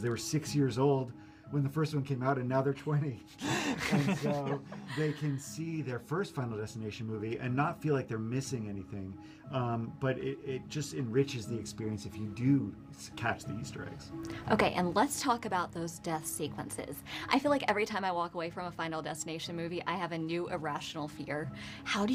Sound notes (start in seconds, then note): 3.4 laughing